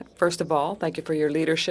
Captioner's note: speaking in French